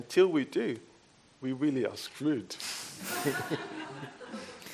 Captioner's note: laughs